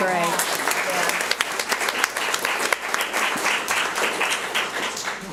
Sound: audience applauds

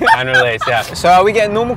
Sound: laughter

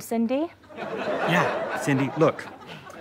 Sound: audience laughter

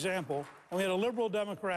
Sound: applause

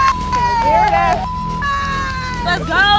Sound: clapping

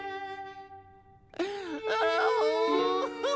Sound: fake cries

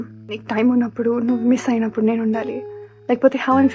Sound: none

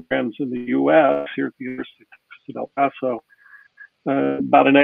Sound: audio glitches

